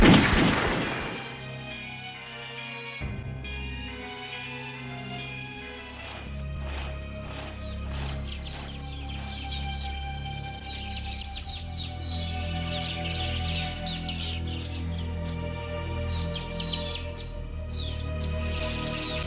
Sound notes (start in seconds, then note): 0.0 gun firing; 8.2 birds chirping